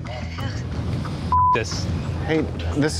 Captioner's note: beep